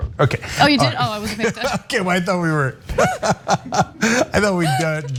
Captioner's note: laugh